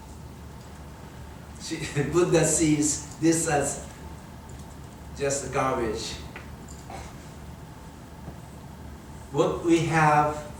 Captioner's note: chuckles